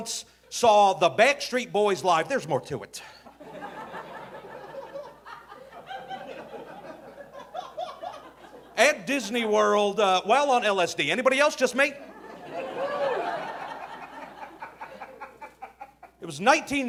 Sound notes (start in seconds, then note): 3.3 audience laughing; 12.0 audience laughing